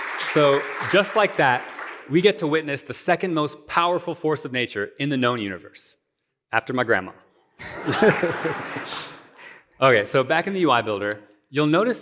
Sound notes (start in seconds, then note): 7.6 laughter